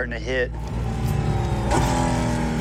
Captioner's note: engine revving